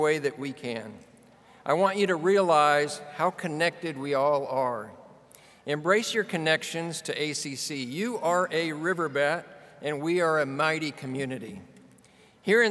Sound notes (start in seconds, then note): none